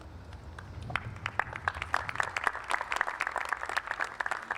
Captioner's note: applause